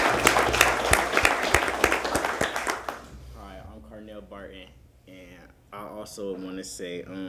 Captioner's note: applause